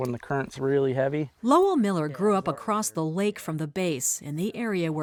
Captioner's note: voice-over